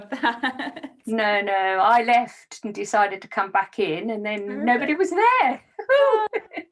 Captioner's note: laughs